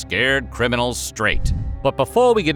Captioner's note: whoosh; ominous music